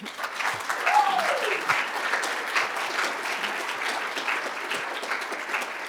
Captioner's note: cheers and applause